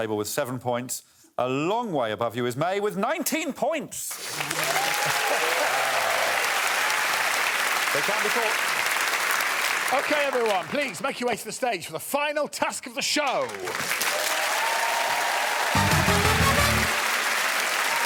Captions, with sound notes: Frankie, I'm afraid you're at the bottom of the table with seven points. A long way above you is Mae with 19 points. [applause] They can't be caught. Okay, everyone, please make your way to the stage for the final task of the show. [cheering and applause]